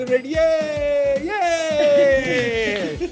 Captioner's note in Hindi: खुशी से चिल्लाते हुए